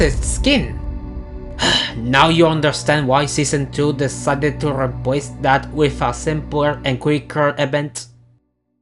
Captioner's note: sigh